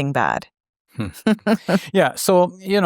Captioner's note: both chuckle